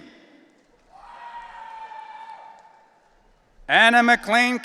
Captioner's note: audience cheering